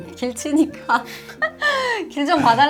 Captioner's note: laughs